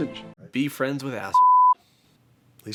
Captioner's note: beeps